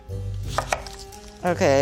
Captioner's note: chopping